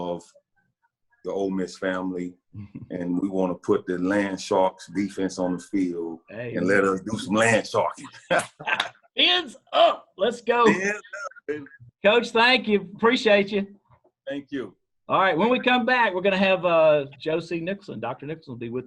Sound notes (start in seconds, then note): 8.0 laughter